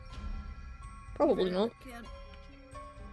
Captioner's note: strained